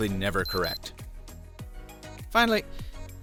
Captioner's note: beeps